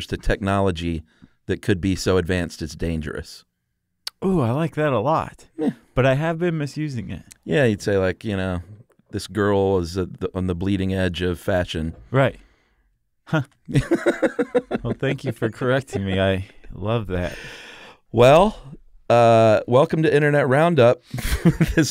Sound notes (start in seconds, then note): 13.7 laughter